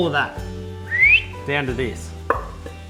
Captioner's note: whistling